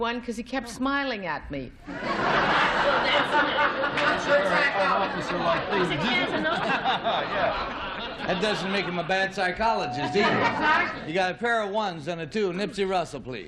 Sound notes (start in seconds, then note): 2.8 laughter; 4.8 chatter